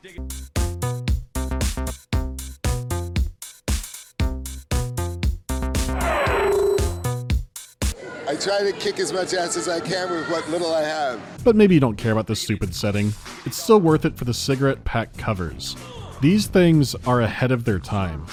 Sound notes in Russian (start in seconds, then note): 0.0 задорная мелодия; 5.8 щвурр